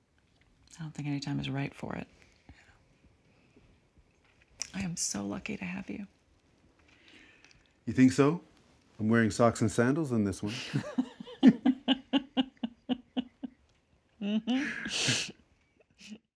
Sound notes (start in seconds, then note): 13.1 laughter